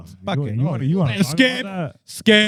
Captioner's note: speaking In Foreign Language